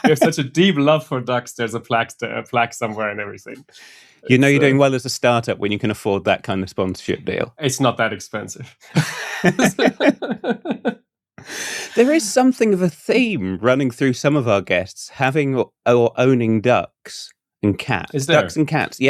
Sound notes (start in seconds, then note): 8.7 laughter